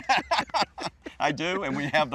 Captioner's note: laughing